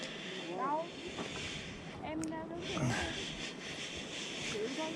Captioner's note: foreign language chat voice